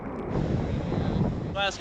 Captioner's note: harsh wind blowing